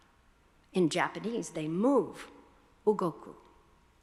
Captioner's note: speaking foreign language